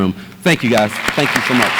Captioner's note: audience applauds